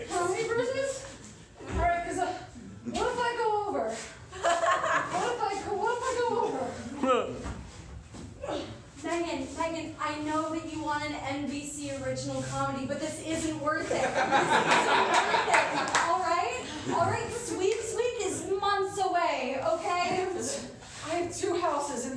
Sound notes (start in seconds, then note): 13.8 laughter